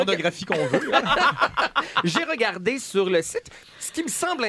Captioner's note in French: rires